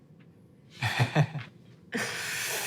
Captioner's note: chuckles